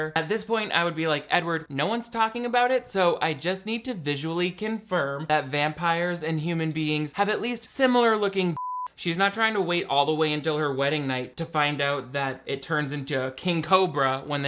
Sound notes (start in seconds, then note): 8.5 beep